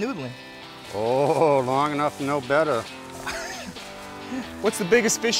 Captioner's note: chuckling